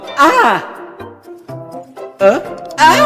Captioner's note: Fuu2 yells